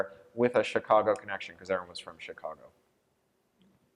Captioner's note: none